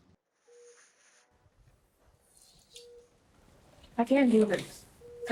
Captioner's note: dispenser whirs; water running